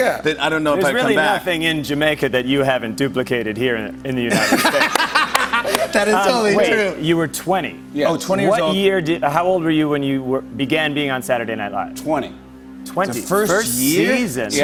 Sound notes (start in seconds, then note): 4.2 laughter